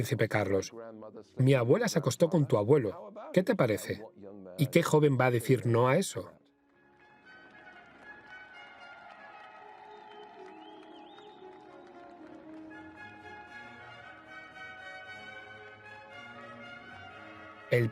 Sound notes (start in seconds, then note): 7.0 crowd cheering; 10.3 regal instrumental music